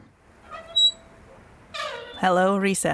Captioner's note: sound of brakes